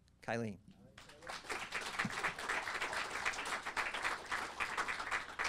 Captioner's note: audience applauding